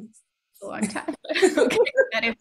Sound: laughing

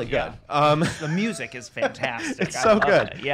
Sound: laughs

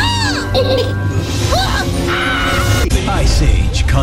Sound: screams; screaming

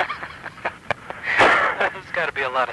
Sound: both chuckling

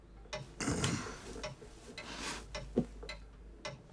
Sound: grunts

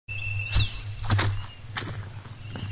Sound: footsteps

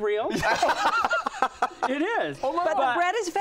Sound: laughter

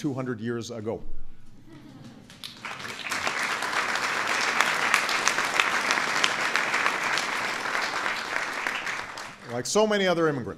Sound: audience Applauding

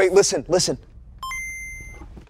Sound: Game Boy chimes

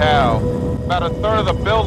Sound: sirens

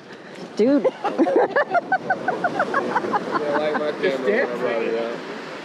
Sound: laughs hysterically

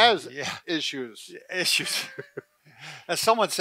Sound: chuckles

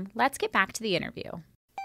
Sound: chime

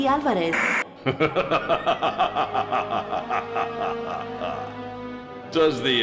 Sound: evil laughter

